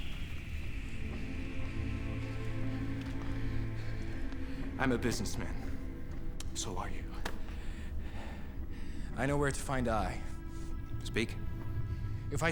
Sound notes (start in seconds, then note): 0.7 somber music; 4.0 panting